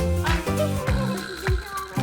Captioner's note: student giggling